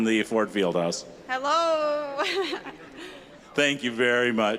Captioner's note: laughing